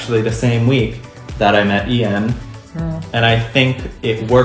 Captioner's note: affectionately 'hmms'